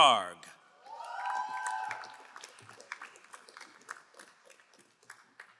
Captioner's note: crowd cheering and applauding